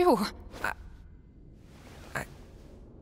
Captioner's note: stammers